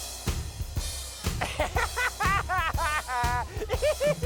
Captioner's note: laughing